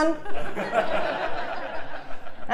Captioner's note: laugh